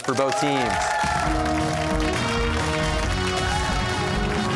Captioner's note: cheers and applause